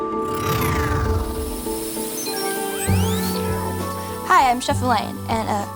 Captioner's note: electronic swoosh